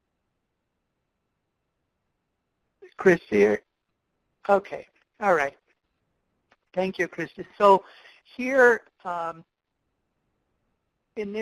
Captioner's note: pause